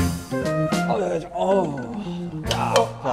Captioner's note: groaning